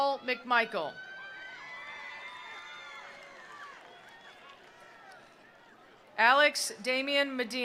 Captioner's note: attendees cheering; attendees applauding